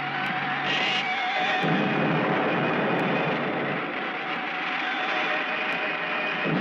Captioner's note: lasers blasting; explosions booming